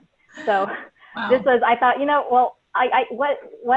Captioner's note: laughs